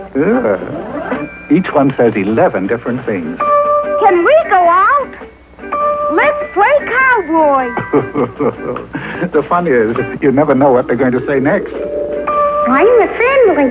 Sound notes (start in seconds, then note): 7.7 laughter